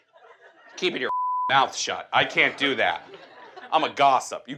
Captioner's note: beep